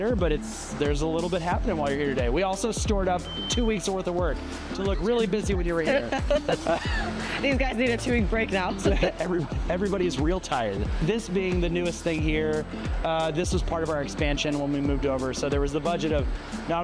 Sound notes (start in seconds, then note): 5.8 laughs